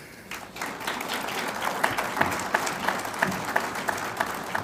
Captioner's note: audience applauds